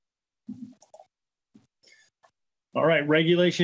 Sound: mouse clicking

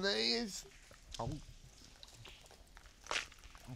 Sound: gulps coin

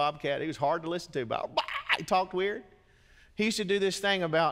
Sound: shrieks

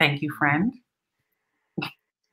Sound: pause

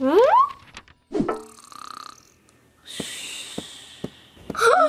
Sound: mother snoring

